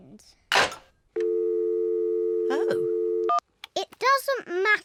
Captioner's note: dialing tone